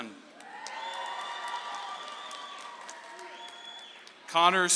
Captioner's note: audience applauds